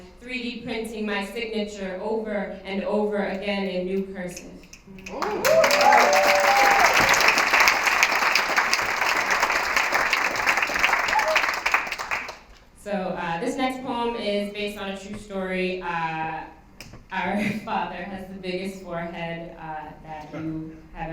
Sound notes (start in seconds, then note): 5.0 applause, cheering